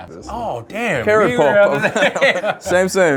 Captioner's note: laughs